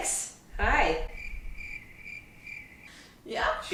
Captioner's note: crickets chirping